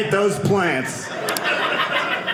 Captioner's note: audience laughing